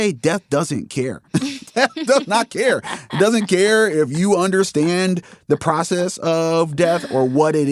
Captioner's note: laughs